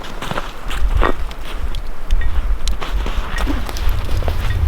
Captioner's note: wind whistling